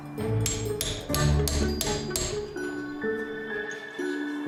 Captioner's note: hammering sound